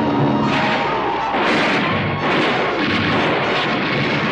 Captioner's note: bullets firing